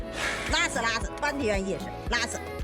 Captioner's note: speaking foreign language